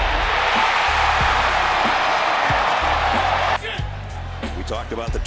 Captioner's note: cheering